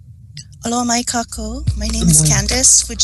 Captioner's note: speaking in foreign language